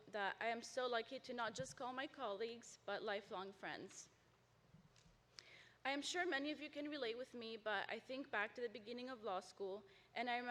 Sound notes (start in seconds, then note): none